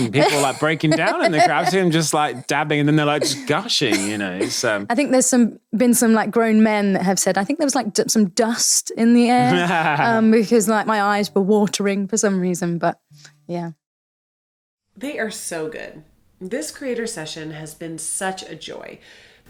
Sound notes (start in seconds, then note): 9.4 laughing